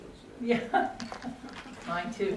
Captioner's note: laughter